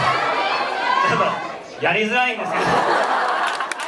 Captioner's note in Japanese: 苦笑